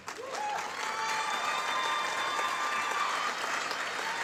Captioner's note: applause